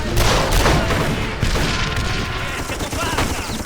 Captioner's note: chaotic sounds of battle, screams of soldiers; machinegun fire; chaotic sounds of battle, screams of soldiers